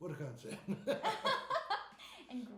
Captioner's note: laughing